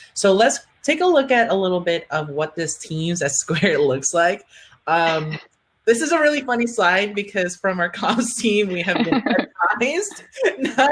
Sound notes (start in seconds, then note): 5.1 laughing; 8.7 laughing